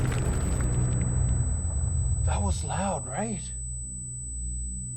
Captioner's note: explosion blasts; feedback whistles